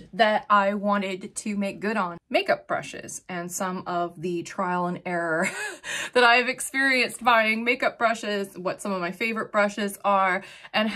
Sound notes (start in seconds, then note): 5.5 chuckles